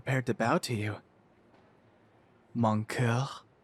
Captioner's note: none